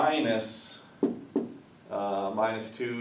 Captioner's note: knuckle knocks